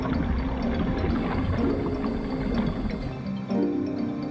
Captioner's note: water bubbling; upbeat music